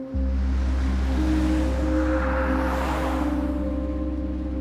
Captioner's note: cars whooshing